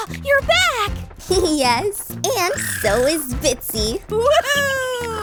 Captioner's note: laughs; tweeting